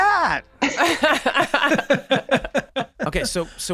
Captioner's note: Rob, Charlie, Megan laughing